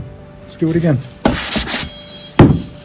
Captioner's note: plate scrapes